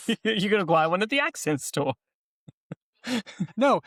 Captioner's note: laughs